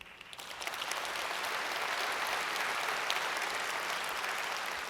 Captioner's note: audience applauds